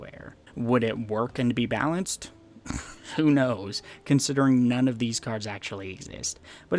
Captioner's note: laughs